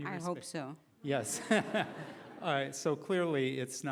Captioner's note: laughing